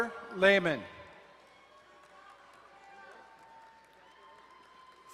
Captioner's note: crowd cheering and applauding